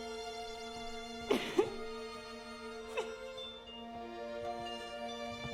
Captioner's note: Nelly crying